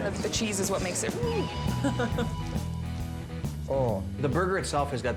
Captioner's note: chuckles